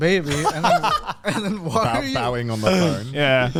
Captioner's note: men laugh